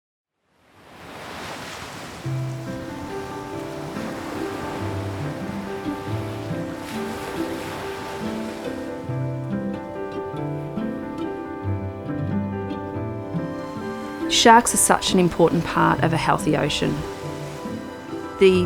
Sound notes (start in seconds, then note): 0.4 waves crashing; 2.6 light piano music